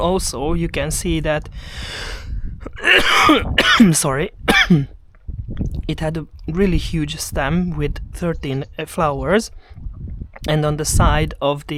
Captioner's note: coughing heavily